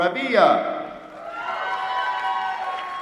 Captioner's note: applause